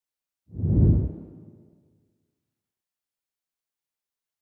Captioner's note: graphic whooshing